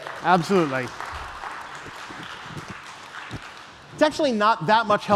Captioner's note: applause